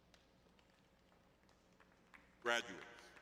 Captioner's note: applause